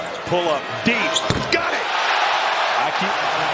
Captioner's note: cheers and applause